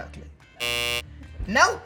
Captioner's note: buzzer sounding